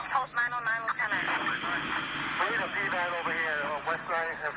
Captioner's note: exhale